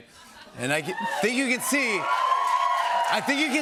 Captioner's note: cheers and applause